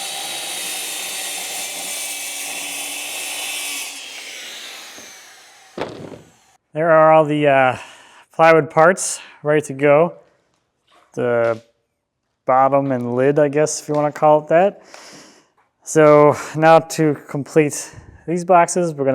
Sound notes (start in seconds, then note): 0.3 whirring continues; 5.7 plywood thuds